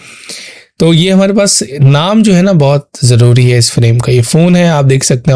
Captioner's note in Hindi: नाक से की जाने वाली आवाज़